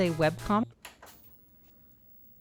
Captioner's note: TV turning off; ambient TV power-down noises